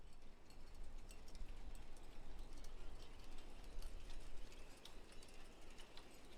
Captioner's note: rain sounds